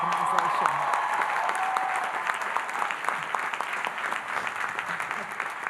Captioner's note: audience applauding and cheering